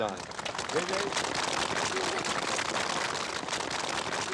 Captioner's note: applause